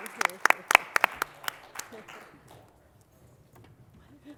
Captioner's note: applause